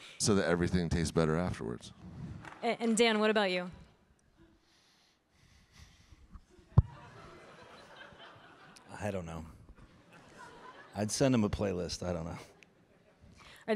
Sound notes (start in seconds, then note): 6.6 audience laughing